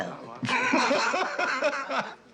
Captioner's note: laughing